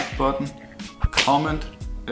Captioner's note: whip sound